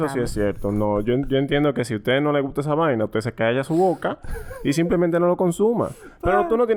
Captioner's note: laughs